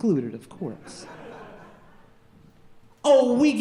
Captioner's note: audience laughing